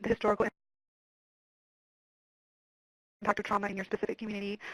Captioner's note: audio cuts out